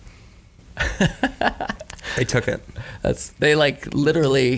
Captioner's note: laughs